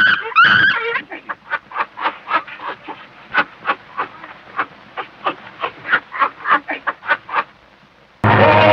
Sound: cheetah upset

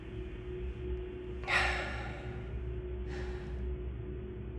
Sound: breathing

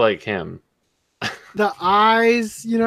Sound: scoffs

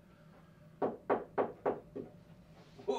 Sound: knocking

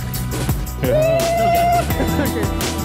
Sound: trill sound

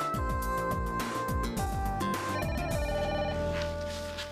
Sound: telephone rings

